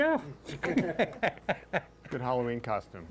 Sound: all chuckling

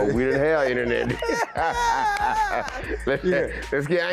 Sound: laughing

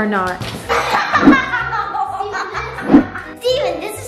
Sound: laughs

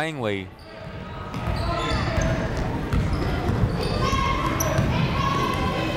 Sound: people shouting in the crowd

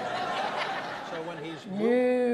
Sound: audience laughs

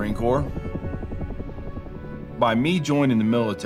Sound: helicopters popping

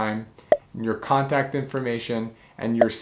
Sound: bubble popping

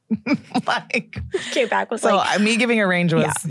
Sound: laughs

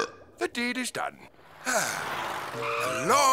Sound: sighing

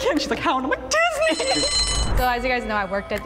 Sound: bell ringing

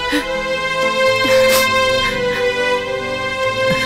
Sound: crying

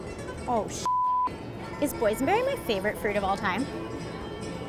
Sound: beeps

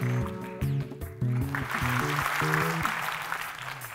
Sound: clapping

